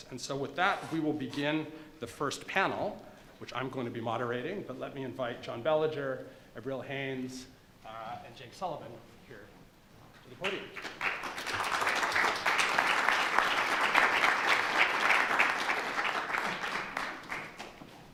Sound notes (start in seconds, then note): 10.4 applause